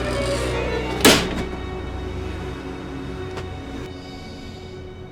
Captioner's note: door slams shut